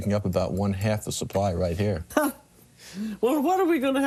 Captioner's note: laughs